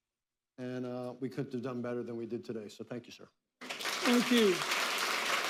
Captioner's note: applause